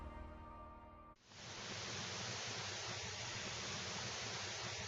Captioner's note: low static sound